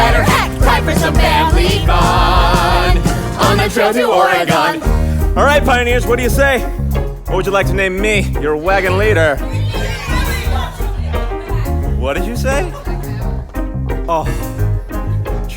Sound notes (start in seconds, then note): 9.4 audience starts shouting names; 13.5 happy sigh